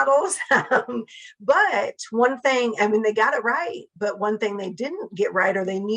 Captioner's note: laugh